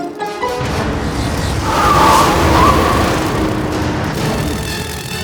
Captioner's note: wind whistling